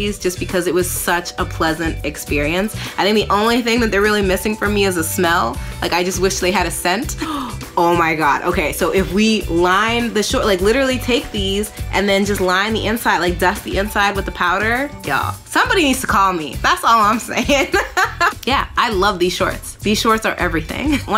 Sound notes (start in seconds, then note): 7.2 gasps; 17.4 laughs